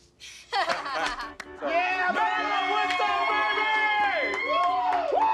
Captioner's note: cheering